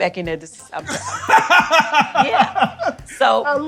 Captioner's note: laughs